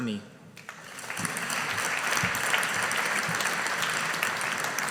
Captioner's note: audience applauding